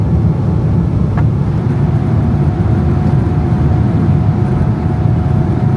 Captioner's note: engine rumbling continues